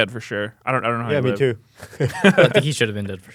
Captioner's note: laughs